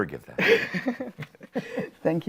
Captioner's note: chuckles